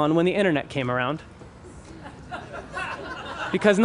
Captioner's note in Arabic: ضحك